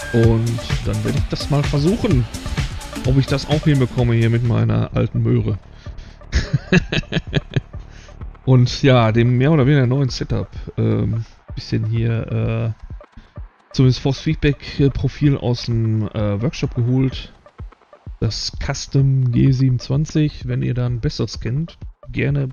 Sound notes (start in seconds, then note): 6.3 laughs